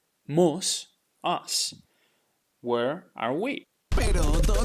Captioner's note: speaking in Spanish